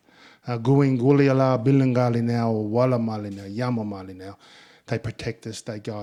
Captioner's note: speaking in Ngunnawal